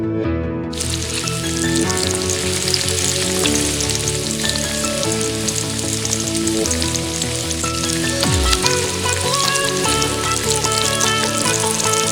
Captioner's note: sizzle sound